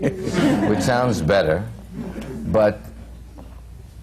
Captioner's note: laughter